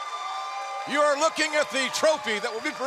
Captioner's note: cheers and applause